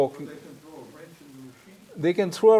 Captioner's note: participant faintly speaking